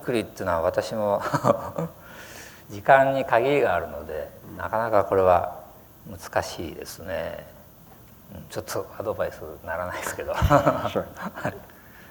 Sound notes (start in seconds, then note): 1.2 laughter